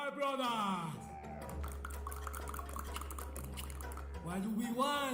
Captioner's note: clicking with tongues